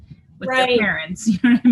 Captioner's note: chuckles